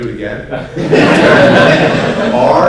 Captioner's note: laughter